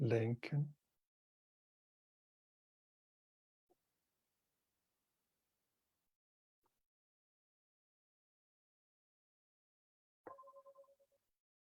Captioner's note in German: Es erklingt die Klangschale